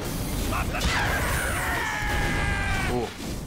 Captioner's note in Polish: postaci z gry krzyczą